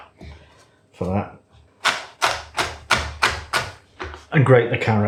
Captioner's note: chop chop chop chop chop chop